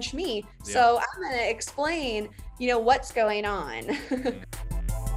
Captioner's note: laughs; upbeat music